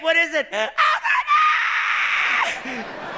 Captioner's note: shrieks